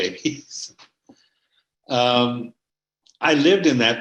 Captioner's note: laughing